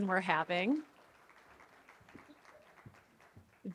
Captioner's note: muted applause